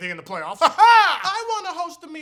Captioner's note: weird laughter